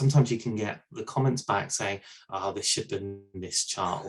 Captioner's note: audio skips